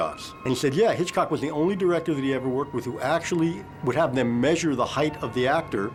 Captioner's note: none